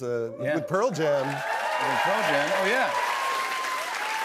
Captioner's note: cheers and applause